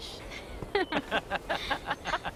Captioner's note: laughing